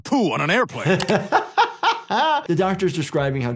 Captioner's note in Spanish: se ríe